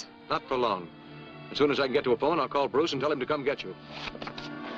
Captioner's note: none